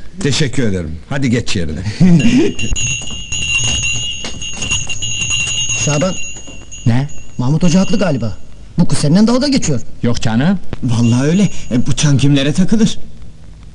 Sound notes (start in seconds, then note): 2.1 sound of the bell